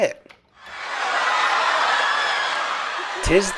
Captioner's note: yelling and screaming